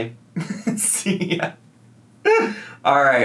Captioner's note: laughs